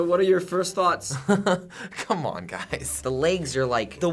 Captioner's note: laughs